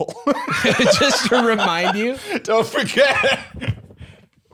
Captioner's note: laughing; laughs